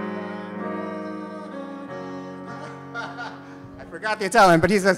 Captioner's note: sings in Italian; laughs